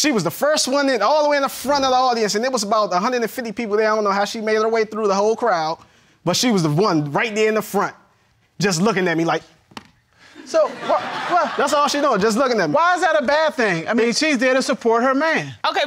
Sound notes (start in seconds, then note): 10.3 audience laughing